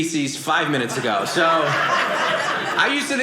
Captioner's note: audience laughing